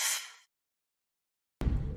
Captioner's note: inhales sharply